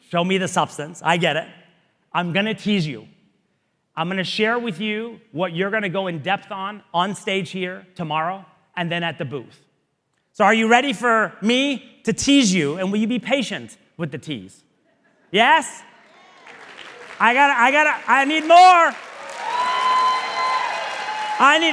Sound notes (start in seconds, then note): 16.0 audience applauding; 19.7 audience cheering